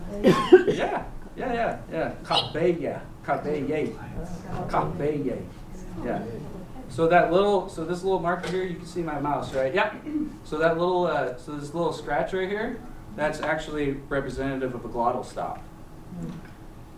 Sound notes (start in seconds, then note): 0.1 non-english; 2.8 non-english